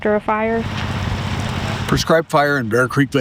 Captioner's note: fire sizzling